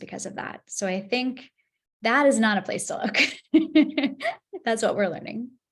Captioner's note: laughs